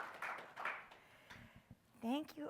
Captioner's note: audience applauds